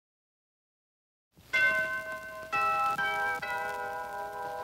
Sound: church bells ringing

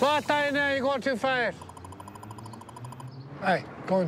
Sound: radar gun beeping

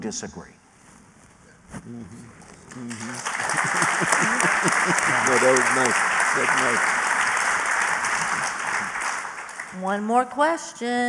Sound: applause

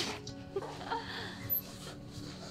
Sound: laughter

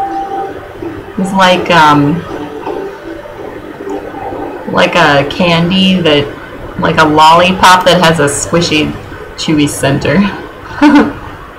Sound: laughs

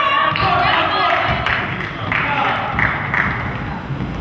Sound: spectator claps

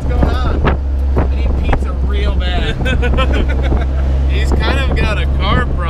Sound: both laughing

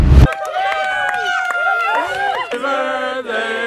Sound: all cheering

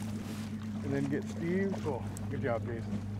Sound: fish splashing

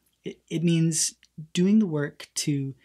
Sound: none

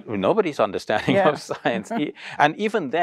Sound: chuckles

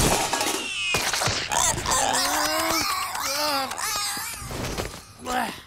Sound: squealing

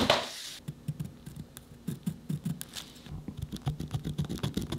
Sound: pencil scratching

